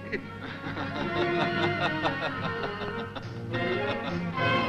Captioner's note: laughing